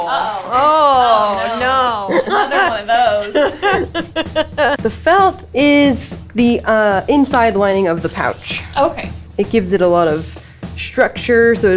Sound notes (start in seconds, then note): 3.6 laughs